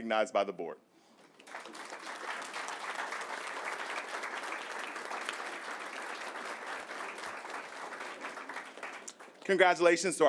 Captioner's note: applause